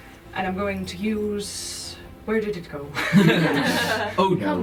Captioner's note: laughter